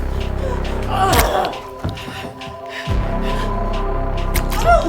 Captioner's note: Caroline moaning